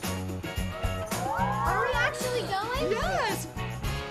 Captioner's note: cheers